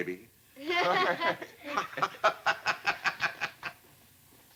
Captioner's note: laughter